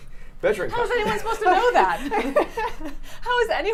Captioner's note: laughs